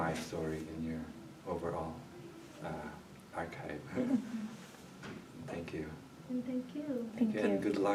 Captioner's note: chuckles